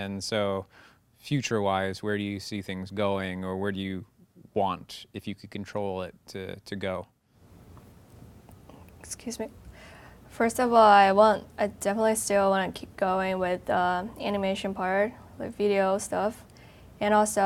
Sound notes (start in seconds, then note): none